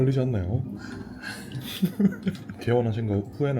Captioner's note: sighs